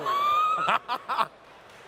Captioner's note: laughs